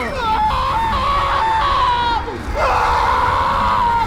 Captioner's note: screaming